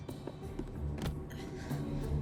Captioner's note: breathing heavily